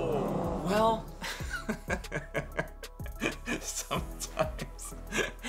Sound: laughs

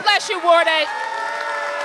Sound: applause

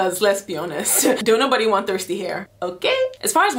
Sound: laughing

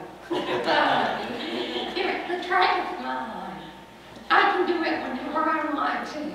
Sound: laughter

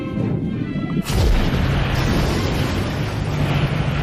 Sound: many splashes of water

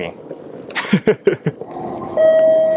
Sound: laughs

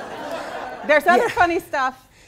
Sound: laughing

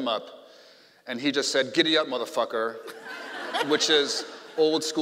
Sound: laughing

